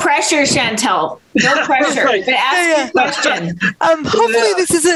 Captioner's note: laughs